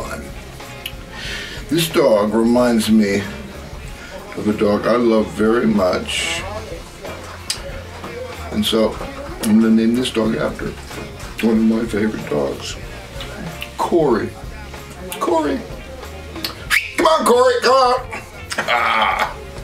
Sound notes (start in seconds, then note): 16.4 whistles